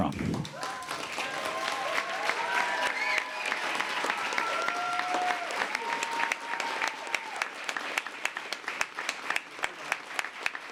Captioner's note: applause